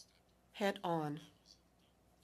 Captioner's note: speaking French